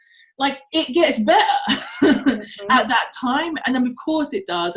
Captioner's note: laughs